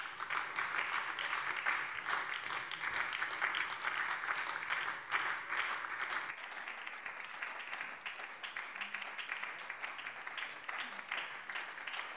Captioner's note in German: Anhaltender Beifall BÜNDNIS 90/DIE GRÜNEN